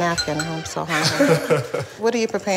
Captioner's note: laughter